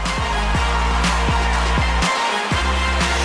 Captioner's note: cheers and applause